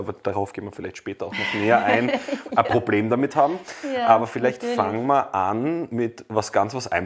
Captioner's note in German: lacht